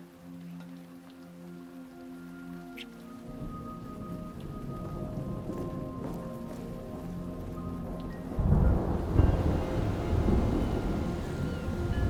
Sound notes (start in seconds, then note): 0.1 tense pensive music; 3.8 thunder rumbling; 9.2 rain pattering